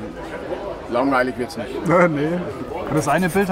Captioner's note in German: lacht